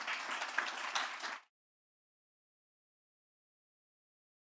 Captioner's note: audience clapping